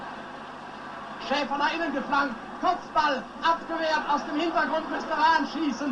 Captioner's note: announcer speaking German language